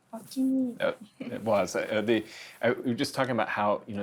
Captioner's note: stammering